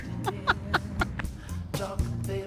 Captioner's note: laughs